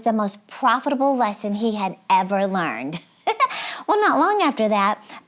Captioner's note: giggles